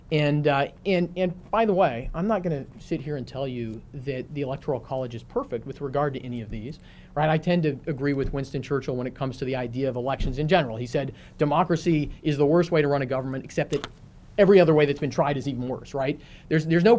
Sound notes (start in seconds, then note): none